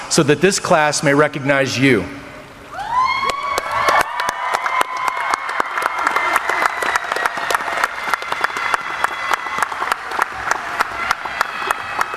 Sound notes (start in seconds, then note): 2.7 cheering; 2.7 audience applauding